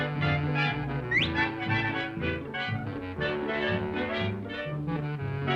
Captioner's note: swordfish swishing